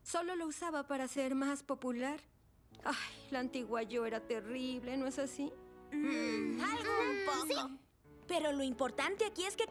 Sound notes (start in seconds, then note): 2.7 sigh; 6.0 non-committal murmurs